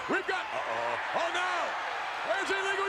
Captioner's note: spectators cheering